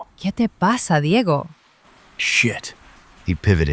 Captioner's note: Spanish